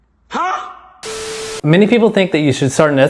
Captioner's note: computer glitches